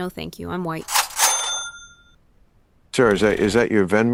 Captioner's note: venmo 'money received' sound